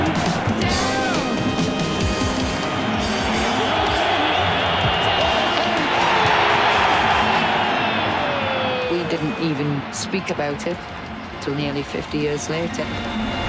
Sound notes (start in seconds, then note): 6.3 crowd cheers